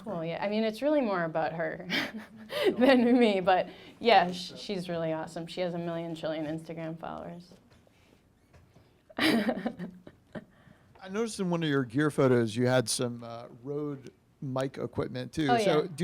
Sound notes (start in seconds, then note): 1.9 laughing; 9.1 laughing